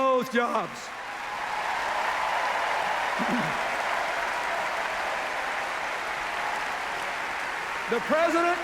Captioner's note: cheers, applause